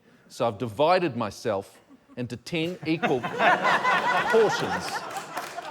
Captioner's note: laughter